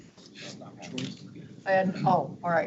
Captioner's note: board members murmuring